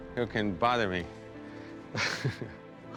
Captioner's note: laughs